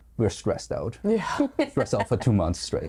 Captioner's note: laughing